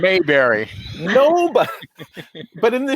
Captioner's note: laughing